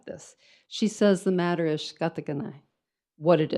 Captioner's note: speaks in foreign language